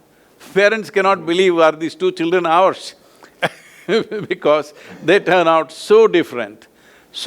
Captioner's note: both laugh